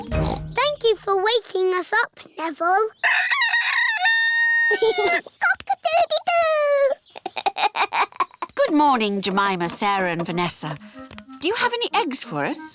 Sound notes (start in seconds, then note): 0.1 oinks; 3.2 neville crows; 7.1 laughs; 7.1 giggles